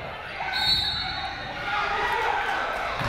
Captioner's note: whistle